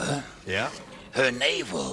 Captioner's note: deep voice